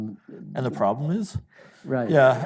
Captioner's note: audience laughing